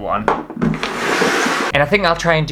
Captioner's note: rocks scratching my table to bits